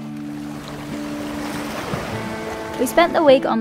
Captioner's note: water splashing